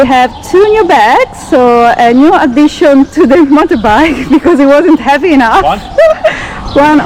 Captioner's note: laughing